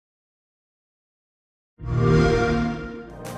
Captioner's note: xbox sound